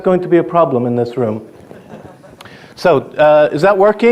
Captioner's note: audience laughing